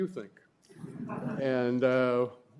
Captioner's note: laughter